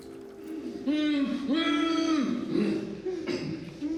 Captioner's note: victims groaning